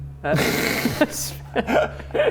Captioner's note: rebellious laugh